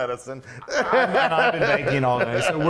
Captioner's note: guffawing